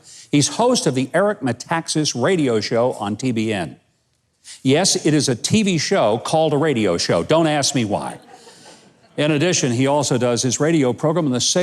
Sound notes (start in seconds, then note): 7.9 audience laughs